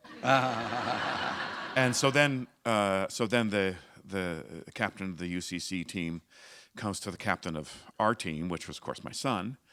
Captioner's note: laughter